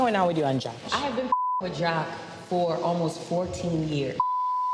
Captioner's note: beep